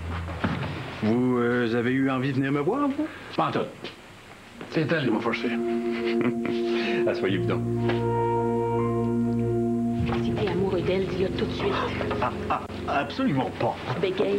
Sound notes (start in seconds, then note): 5.7 Rire